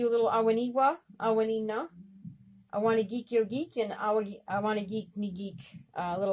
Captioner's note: speaking Abenaki Language